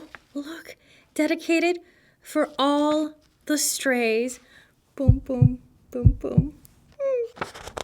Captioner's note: heartbeat booms